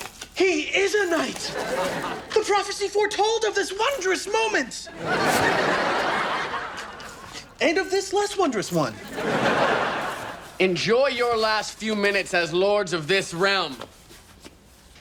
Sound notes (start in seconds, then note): 4.8 audience laughs; 8.6 audience laughs